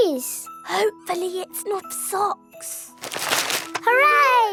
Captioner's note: whispering